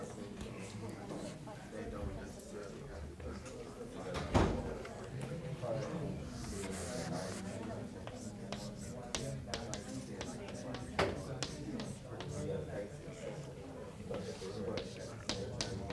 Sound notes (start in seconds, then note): 4.5 chalkboard writing